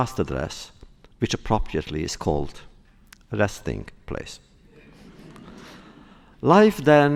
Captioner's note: laughter